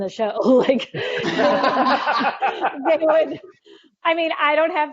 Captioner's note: laughing